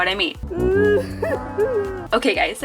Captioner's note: sobbing